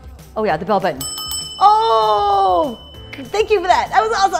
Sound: rings bell

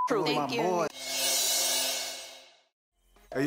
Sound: beep

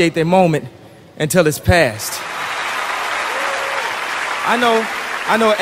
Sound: audience Clapping

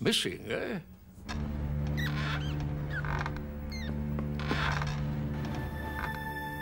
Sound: dramatic music; mouse squeaking

